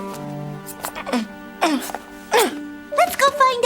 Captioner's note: grunting